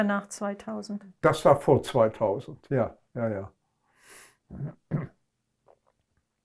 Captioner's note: clears throat